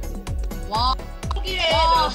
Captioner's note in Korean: 응애